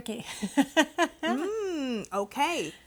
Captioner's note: laughing